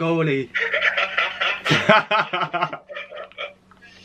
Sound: laughing

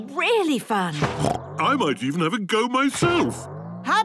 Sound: snorts

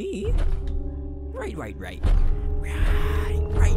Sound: loud thud; thuds grow louder and louder

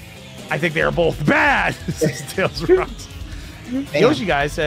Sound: laughs

